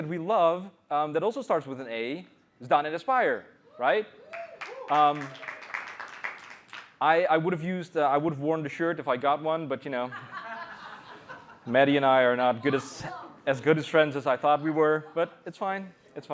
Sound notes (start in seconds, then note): 4.2 cheers; 10.0 laughter